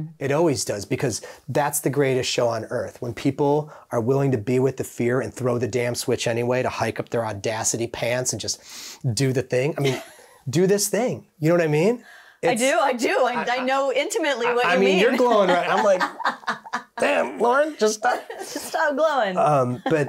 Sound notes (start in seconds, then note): 17.0 laughing joyously